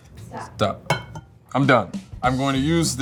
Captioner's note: bowl clinking